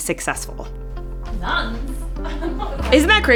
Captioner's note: laughter